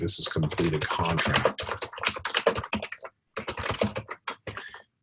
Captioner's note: typing Sounds